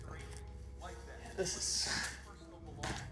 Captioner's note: sighs